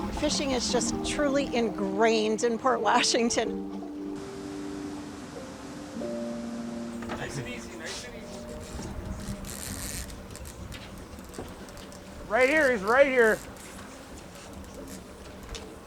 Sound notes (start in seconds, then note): 6.3 gentle instrumental music; 7.0 water splashing